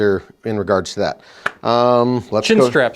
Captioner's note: claps hands